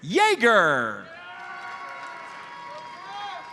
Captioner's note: audience cheers and applauds